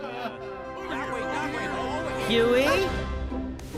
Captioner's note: all laugh; indistinct chattering